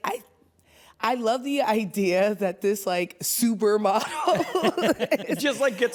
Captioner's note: laughs